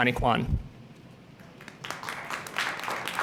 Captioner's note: applause